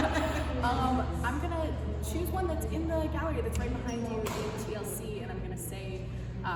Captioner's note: laughter